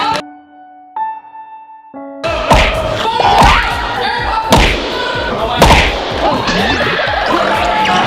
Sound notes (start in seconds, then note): 0.0 gentle music; 4.8 contestants chattering